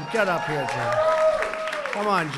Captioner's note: applause